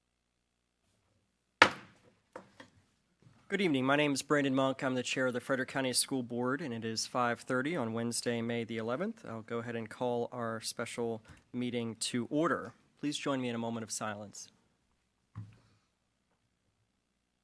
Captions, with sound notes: (gavel bangs) - Good evening. My name's Brandon Monk. I'm the Chair of the Frederick County School Board. And it is 5:30 on Wednesday, May the 11. I'll go ahead and call our special meeting to order. Please join me in a moment of silence.